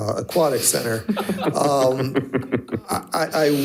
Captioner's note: participants laughing